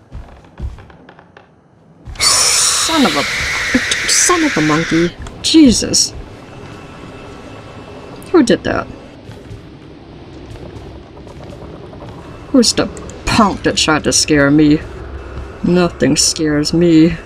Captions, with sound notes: (loud screeching static noise) Son-of-a-- Son-of-a-monkey! Jesus! Who did that? Who's the punk that tried to scare me? Nothing scares me.